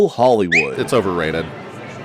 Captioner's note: whistles